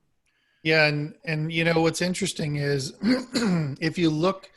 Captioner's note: clears throat